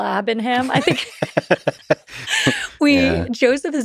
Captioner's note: both laughing